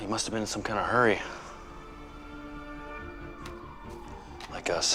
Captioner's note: distant sirens wailing